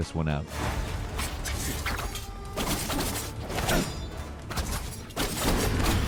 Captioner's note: intense dramatic music; swords clanking